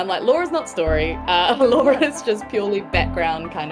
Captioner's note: chuckles